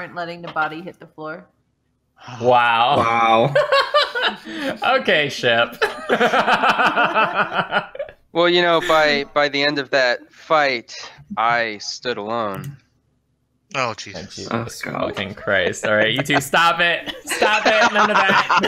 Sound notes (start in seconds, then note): 5.7 laughter